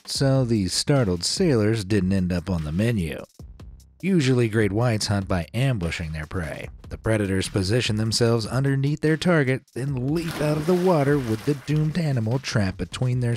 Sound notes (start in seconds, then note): 10.1 water splashes